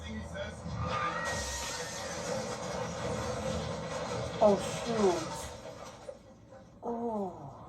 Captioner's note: car crashes with another car--screaming